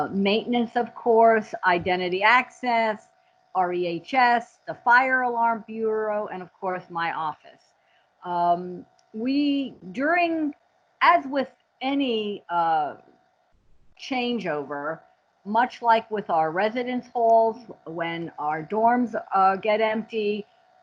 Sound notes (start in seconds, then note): none